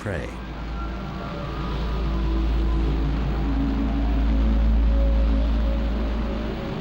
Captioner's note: plane engine roars